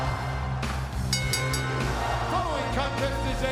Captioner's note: bell rings